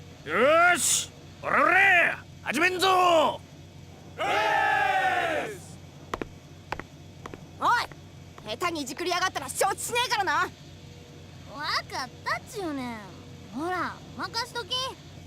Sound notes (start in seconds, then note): 4.2 cheer